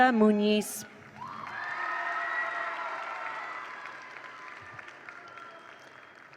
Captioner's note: attendees cheer; attendees applaud